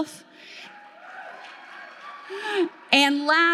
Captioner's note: audience clapping